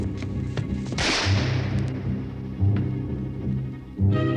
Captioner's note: gun firing